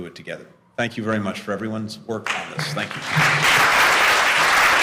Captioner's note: applause